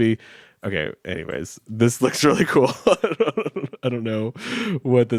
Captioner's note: chuckles